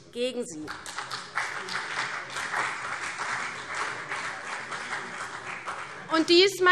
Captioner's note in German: Beifall CDU